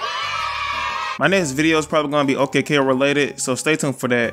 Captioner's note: children Cheering